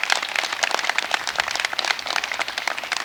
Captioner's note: applause